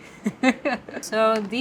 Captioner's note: laughs